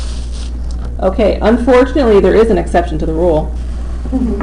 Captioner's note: laughter